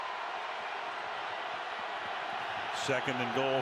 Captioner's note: cheers, applause